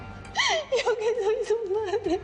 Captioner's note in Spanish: Sollozos